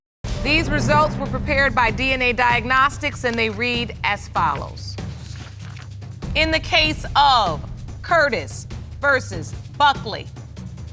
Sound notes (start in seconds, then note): none